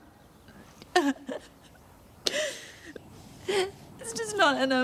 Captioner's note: Trina sobbing